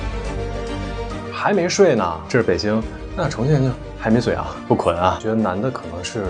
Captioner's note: chongqing accent